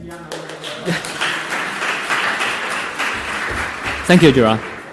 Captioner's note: audience applauding